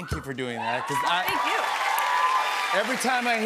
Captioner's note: cheers and applause